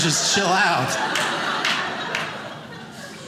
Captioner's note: audience laughing